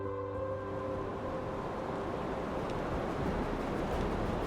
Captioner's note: light music; waves rushing